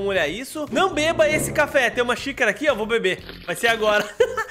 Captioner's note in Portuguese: risos